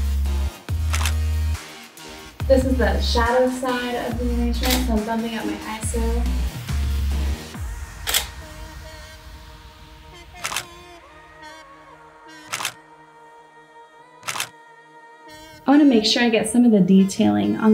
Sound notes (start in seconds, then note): 8.6 clicking; 10.9 upbeat music